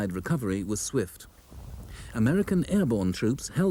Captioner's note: shell booms